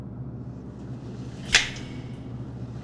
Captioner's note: light switch